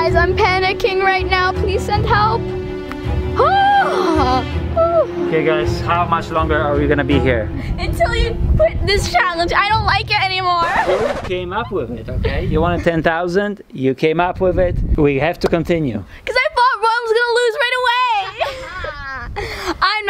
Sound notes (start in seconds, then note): 3.4 exclaims in anxiety; 10.5 track scratches; 18.2 laughs